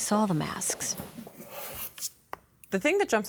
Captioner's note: cardboard rubbing